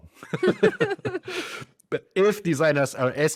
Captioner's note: both laugh